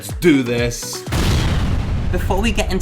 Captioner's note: explosion